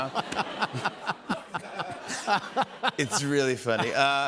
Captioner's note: laughter